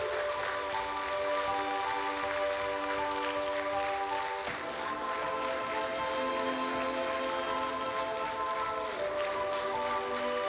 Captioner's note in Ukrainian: оплески